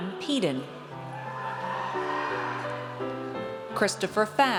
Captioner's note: audience cheers